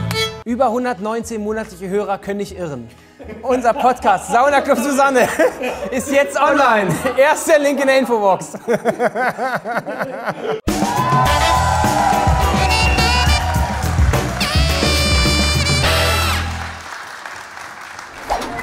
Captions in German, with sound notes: Über 119 monatliche Hörer können nicht irren. (Lachen) Unser Podcast "Sauna Club Susanne" ist jetzt online. Erster Link in der Infobox. (Lachen) (Dynamische Musik, Jubel) (Applaus)